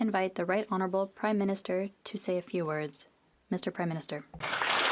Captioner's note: speaking FRENCH